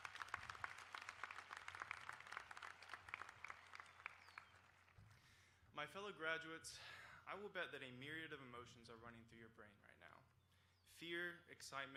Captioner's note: applause